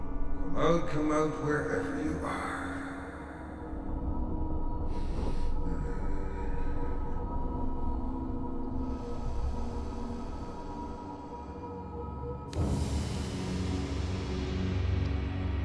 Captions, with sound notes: Come out, come out wherever you are. (ghoul breathes heavily) (eerie music)